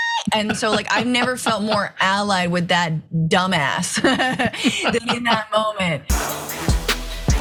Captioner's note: laugh